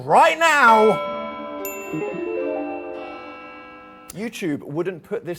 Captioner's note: bells ringing